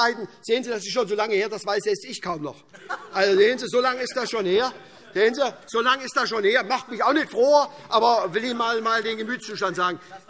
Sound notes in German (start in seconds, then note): 2.4 Heiterkeit - : Sehen Sie mal, wir wissen das aber!